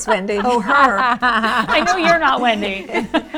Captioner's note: all laughing